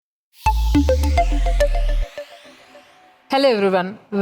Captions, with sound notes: (bright music) (logo whooshing) - Hello, everyone.